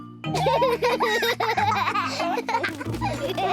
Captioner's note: both laugh